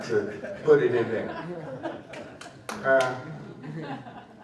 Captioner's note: laughter